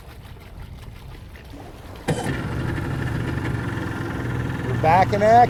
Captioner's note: motor starting